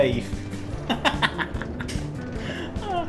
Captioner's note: laughs